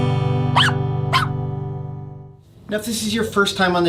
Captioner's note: guitar strums; high-pitched bark